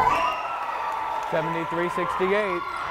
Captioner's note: cheering